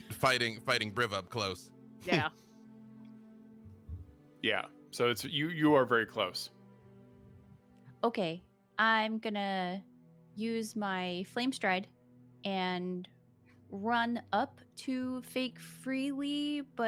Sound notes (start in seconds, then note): none